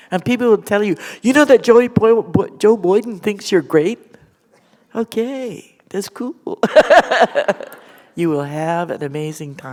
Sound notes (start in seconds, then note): 7.2 chuckle